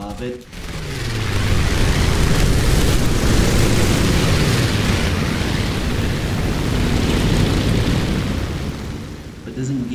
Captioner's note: aircraft Engines ,Gunfire, Flying Sounds